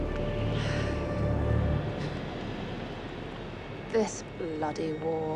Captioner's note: eerie music; Jane sighs